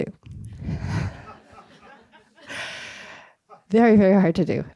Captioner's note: laughter